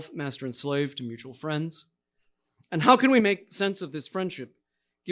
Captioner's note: none